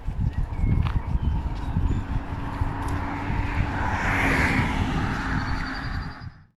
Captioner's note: traffic